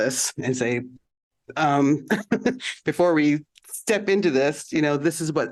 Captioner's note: laughter